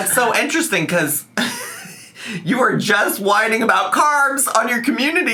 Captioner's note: laughs